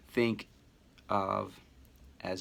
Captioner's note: none